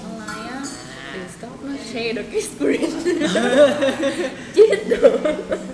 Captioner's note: laugh